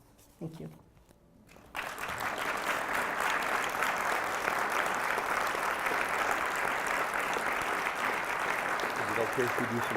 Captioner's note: applause